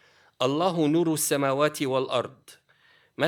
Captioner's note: speaking arabic